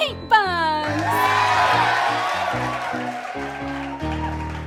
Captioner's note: girls cheering